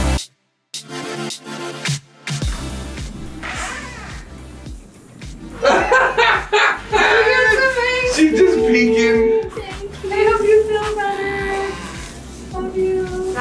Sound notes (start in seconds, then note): 0.0 upbeat music; 3.2 door squeaks open; 5.5 laughing